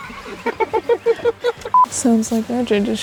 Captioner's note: laughter